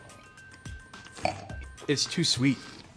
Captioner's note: bright upbeat music; slurps and swishes wine